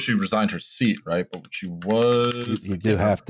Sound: keyboard tapping

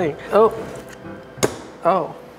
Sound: beans plopping

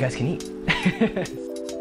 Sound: laughter

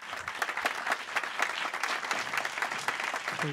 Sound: applause

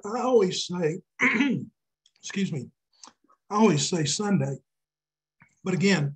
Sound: clearing his throat

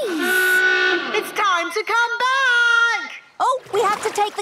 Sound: honking; horn honking

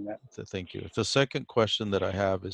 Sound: on phone

